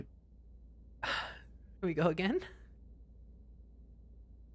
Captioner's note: sighs